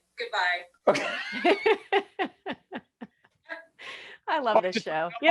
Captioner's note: laughing